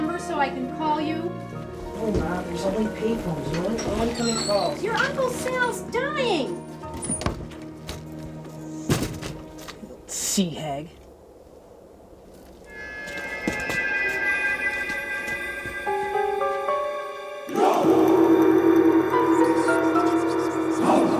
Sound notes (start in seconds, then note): 6.8 door creaks and thuds; 12.9 tense music; 15.2 gong reverberates; 16.5 suspenseful music; 19.8 voices whispering